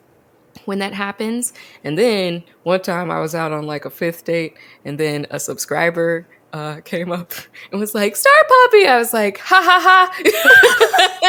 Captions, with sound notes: - When that happens... And then, one time I was out on a fifth date, and then a subscriber came up and was like, "Star Puppy," and I was like ha ha ha (both laugh).